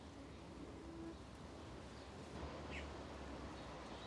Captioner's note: birds singing